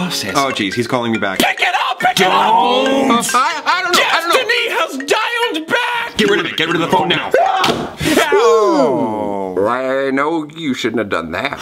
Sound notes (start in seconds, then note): 7.8 phone smashes